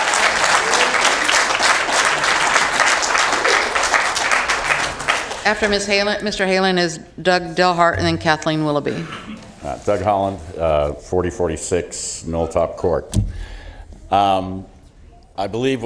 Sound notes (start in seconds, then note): 7.2 cheering from the audience